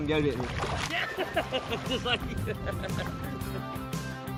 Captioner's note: laughter